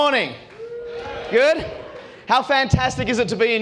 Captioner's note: crowd cheers